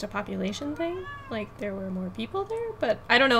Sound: meows

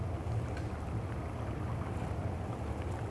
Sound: none

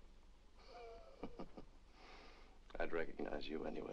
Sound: Charles chuckles

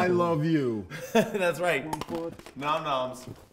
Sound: chuckles

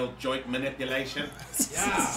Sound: laugh

